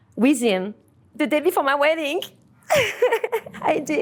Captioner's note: laughs